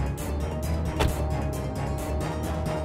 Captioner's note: door opens